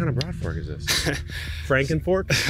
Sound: laughs

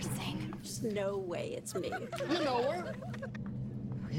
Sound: giggling

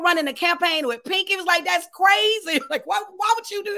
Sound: laughs

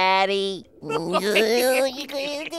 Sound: giggling

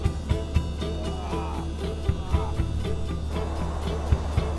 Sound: grunting

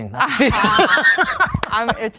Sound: group laughing

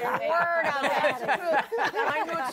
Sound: laughter

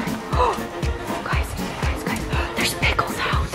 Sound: gasps; whispering

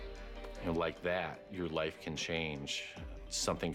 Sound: snaps fingers

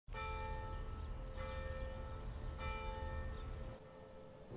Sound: church bell ringing

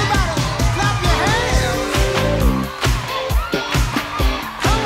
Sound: clapping

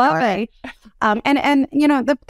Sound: laugh

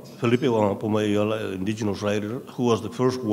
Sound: speaking in a foreign language

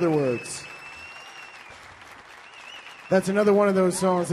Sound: audience cheering and applauding

